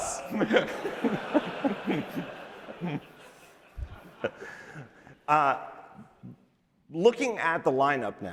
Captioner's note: laughter